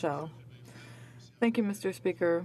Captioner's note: speaking in french